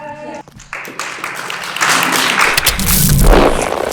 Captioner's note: applause